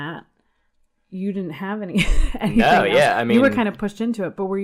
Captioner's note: laughs